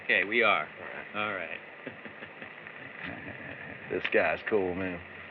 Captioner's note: chuckles